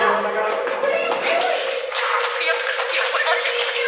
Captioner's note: running footsteps